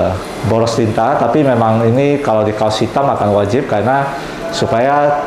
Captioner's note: printer machine sound